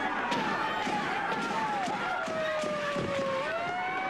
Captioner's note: sound of sirens and gunfire